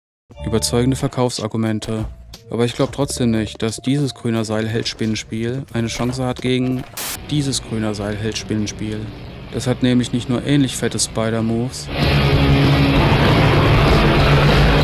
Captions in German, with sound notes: Überzeugende Verkaufsargumente. Aber ich glaube trotzdem nicht, dass dieses Grüner-Seil-Held-Spinnen-Spiel eine Chance hat gegen ... (Rauschen) ... dieses Grüner-Seil-Held-Spinnen-Spiel Das hat nämlich nicht nur ähnlich fette Spider-Moves. (Fauchende, laute Geräusche)